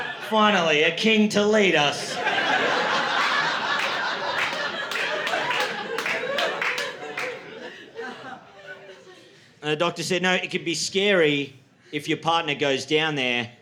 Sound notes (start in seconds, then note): 1.9 laughter